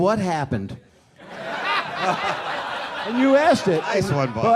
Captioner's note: people laughing